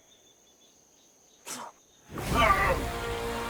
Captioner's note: Tilly spitting; leprechaun groaning; sinister music